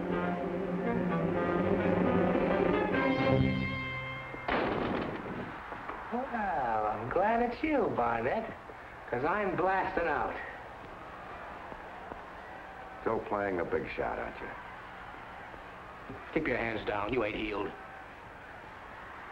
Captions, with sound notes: (door bangs) - Well, I'm glad it's you, Barnett. Cause I'm blasting out. - Still playing the big shot, aren't ya? - Keep your hands down, you ain't healed.